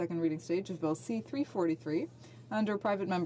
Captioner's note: speaking french